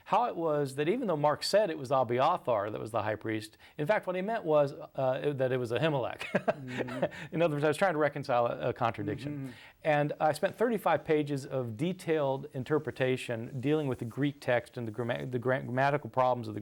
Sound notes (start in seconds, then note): 6.3 laughs